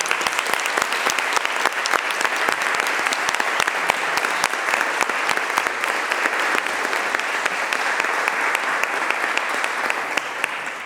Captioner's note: applause